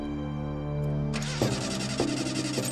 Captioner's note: engine stalling